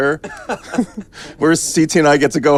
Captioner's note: laughing